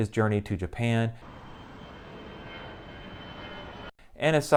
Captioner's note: airplane flying